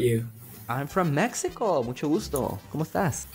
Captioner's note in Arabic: يتحدث باللغة الإسبانية